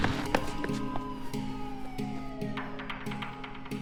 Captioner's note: siren wails